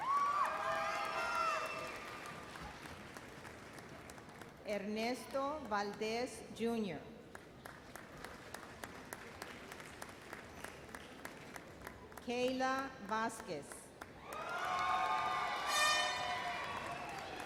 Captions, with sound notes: (audience cheers and applauds) Ernesto Valdez, Jr. (audience applauds) Kayla Vasquez. (audience cheers and bull horn blows)